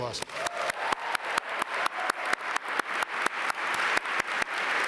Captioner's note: all applaud